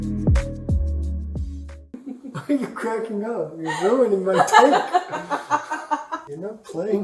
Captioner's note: laughs